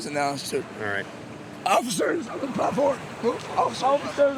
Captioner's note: with hoarse voice